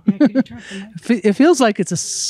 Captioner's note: she giggles